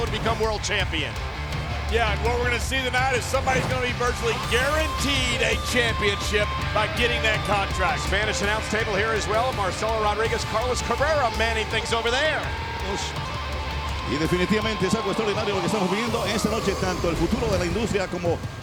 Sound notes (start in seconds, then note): 14.1 speaking in Spanish